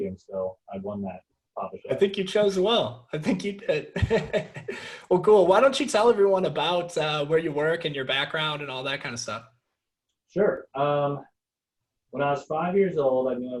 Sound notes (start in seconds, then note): 3.7 laughing